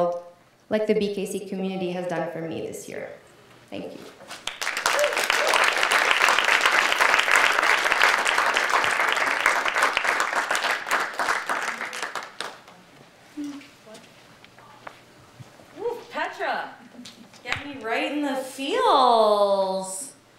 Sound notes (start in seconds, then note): 4.4 audience applauding and cheering